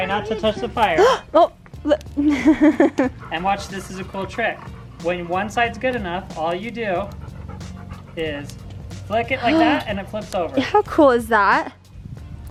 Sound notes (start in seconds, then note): 2.2 laughs; 3.0 gasps